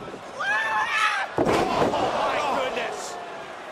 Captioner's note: crowd chatter